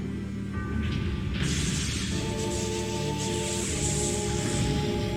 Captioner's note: lightning sparking